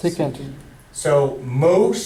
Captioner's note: voiceover